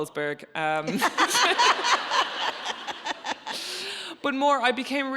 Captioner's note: audience laughing